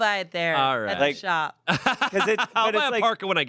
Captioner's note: laughs